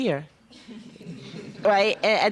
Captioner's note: students chuckling